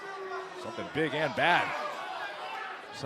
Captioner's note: crowd chatter